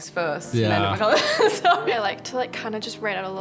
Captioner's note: laughs